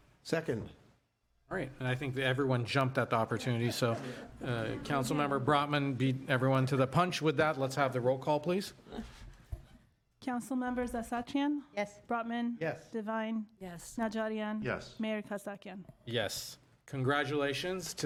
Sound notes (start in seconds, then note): 8.9 laughter